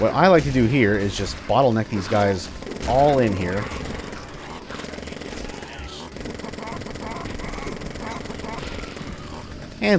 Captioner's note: jackhammer roaring